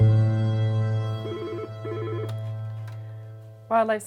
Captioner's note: phone rings